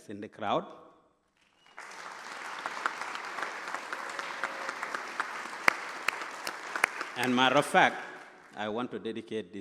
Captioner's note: applause